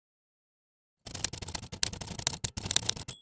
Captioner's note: typing